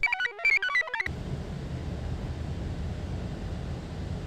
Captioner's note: computer chirps; wind murmurs